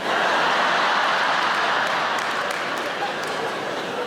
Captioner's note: audience laughing